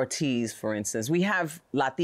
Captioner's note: none